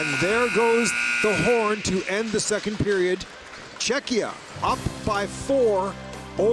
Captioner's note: buzzer